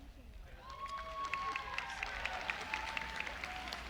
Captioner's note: applause